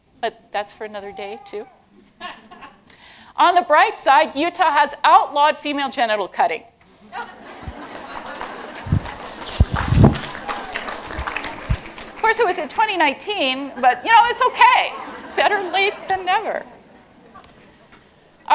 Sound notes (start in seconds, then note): 7.0 laughter; 7.7 applause